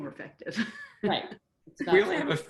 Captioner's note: laughs